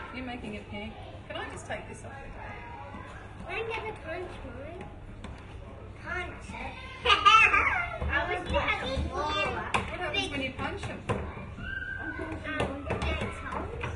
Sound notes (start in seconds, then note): 7.0 laughter